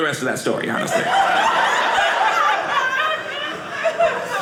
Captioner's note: audience laughing